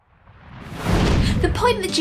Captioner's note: whooshing